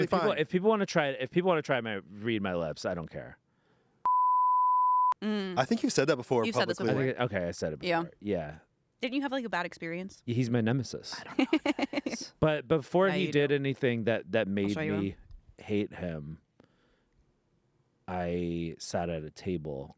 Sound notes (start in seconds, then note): 4.0 beep; 11.1 laughs